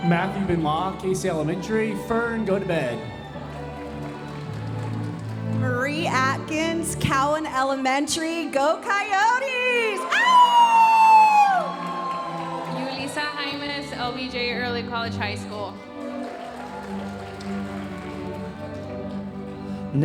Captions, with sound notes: - Matthew Benoit, Casey Elementary, Fern, go to bed. (audience applauding) - Marie Atkins, Cowan Elementary, go Coyotes. (imitating coyote howling) (audience cheering) - Yuliza Jaimes, LBJ Early College High School. (audience cheering and applauding)